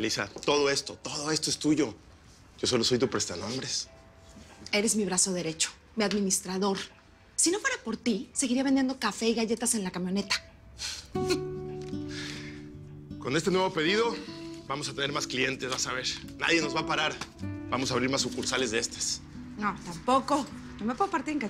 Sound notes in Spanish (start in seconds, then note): 11.7 Risas